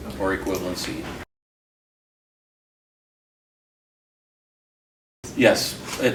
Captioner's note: silence